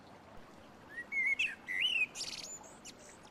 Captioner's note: blackbird song